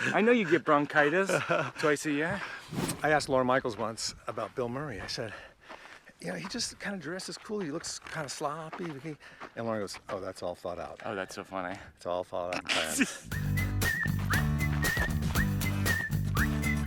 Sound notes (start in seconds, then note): 12.6 Mike laughs; 13.2 whistling music